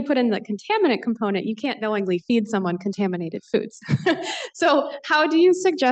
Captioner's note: laughs